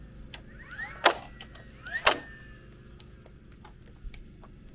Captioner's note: nail gun firing